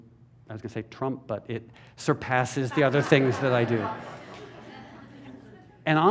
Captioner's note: laughter